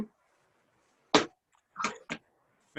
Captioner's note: gavel banging